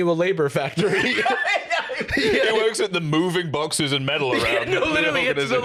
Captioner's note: laughing